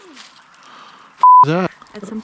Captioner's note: beep